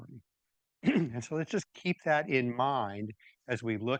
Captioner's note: clears throat